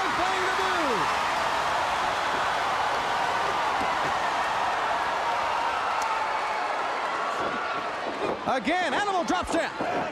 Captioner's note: crowd cheering